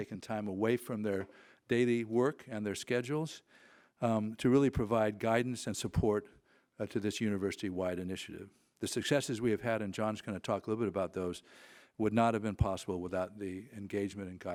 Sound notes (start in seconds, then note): none